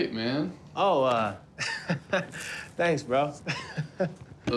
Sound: chuckles

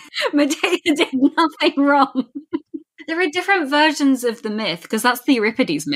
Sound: laughing

